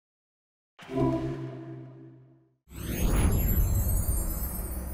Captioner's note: floaty chime noise